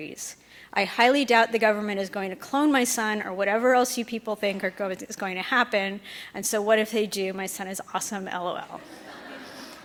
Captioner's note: laughter